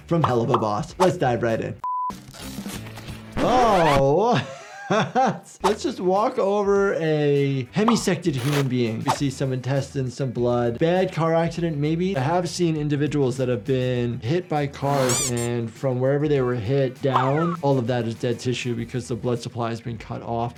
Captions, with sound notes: from "Helluva Boss." Let's dive right in. Oh. (laughing) (tape stopping) Let's just walk over a hemisected human being. You see some intestines, some blood. A bad car accident, maybe? I have seen individuals that have been hit by cars, and from wherever they were hit down, all of that is dead tissue because the blood supply has been cut off.